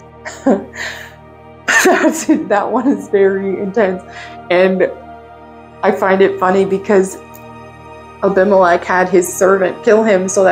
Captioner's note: laughs